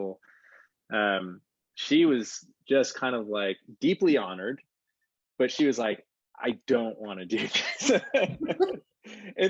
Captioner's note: laughs